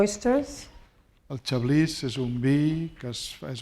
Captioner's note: speaking spanish